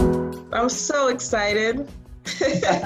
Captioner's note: laughs